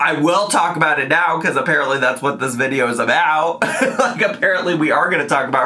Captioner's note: laughs